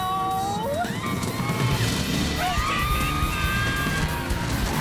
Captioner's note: people screaming